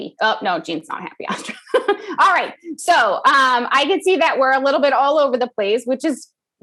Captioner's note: laugh